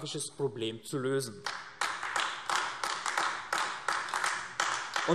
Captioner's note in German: Beifall AfD